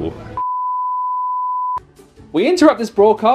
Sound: color bars beep; cheerful music

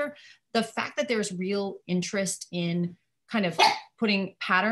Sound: dog barking

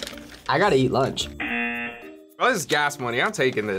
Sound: buzzer

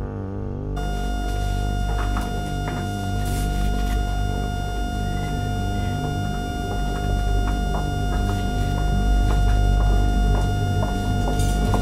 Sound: constant flat-line tone as music increases in harsh intensity

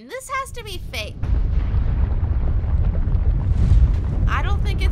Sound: loud apocalpyse noises

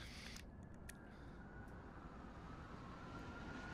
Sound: police sirens approach

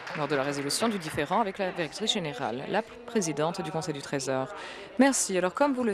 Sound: applause

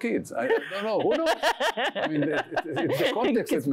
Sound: laughs

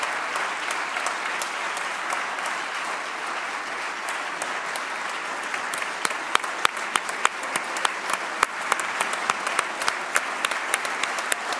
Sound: applause

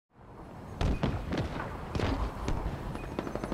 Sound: gunfire

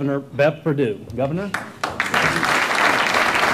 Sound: applause

